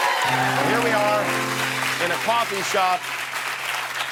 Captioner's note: cheers and applause